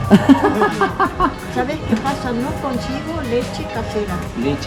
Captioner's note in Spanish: Risas